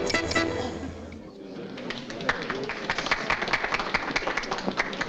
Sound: crowd clapping

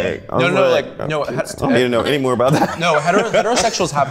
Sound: overlapping chatter

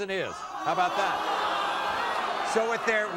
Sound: audience groans

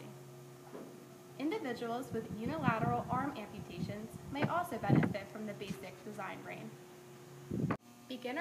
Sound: wind blowing

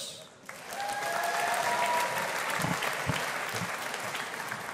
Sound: audience applauding

